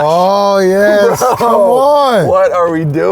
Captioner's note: laughs